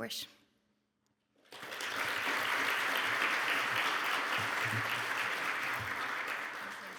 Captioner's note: audience clapping